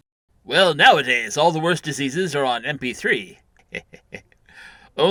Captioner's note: laughs